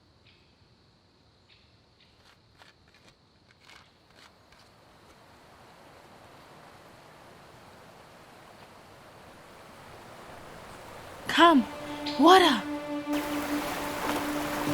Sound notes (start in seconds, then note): 6.2 water rushing; 12.9 gentle music